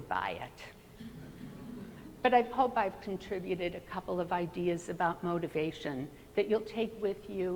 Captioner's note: laughter